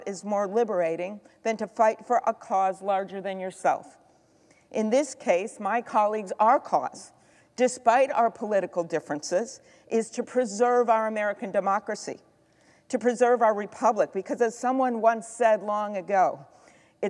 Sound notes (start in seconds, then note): none